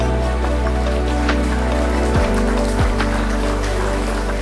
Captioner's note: attendees applauding